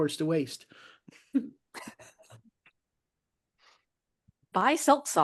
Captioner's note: laughing